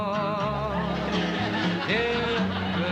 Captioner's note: audience laughing